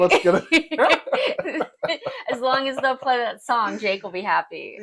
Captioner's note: laugh